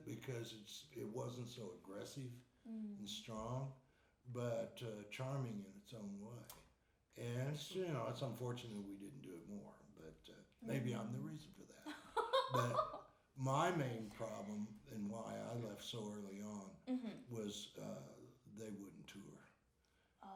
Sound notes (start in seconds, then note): 11.8 laughing